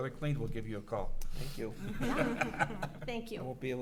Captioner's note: laughs